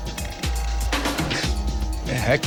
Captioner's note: man laughs